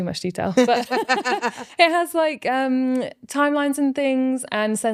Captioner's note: laughing